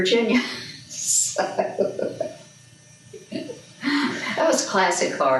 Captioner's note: laughs